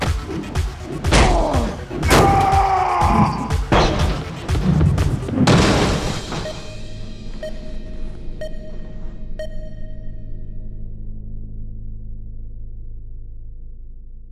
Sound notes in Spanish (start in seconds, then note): 2.0 Coach grita